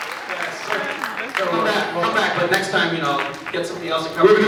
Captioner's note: applauds; slap